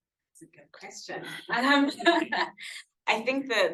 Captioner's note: laughing